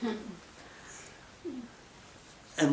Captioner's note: women chuckle